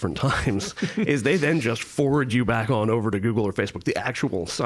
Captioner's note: laughing